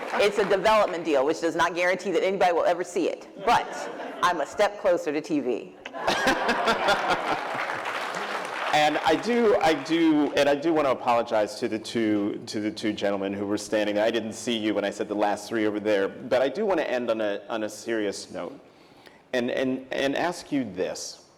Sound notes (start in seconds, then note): 5.8 laughter; 6.7 applause